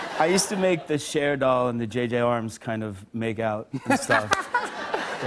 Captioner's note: laughter